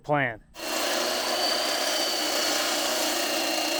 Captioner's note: saw cutting